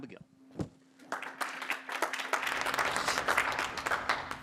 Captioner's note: applause